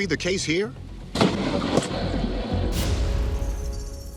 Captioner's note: lightning cracking